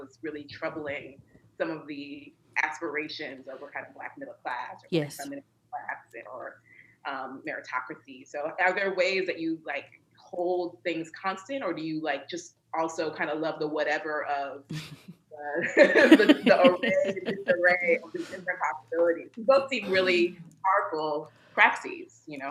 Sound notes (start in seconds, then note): 15.5 laughter